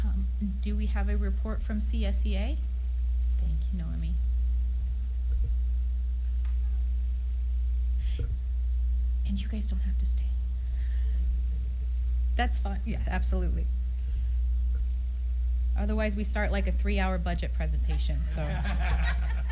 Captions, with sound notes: Do we have a report from CSEA? Thank you Noemi. And you guys don't have to stay. That's fine. Yeah, absolutely. Otherwise, we start like a three hour budget presentation [laughter].